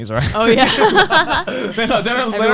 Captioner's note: laughs